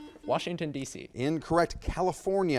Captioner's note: buzzer beeps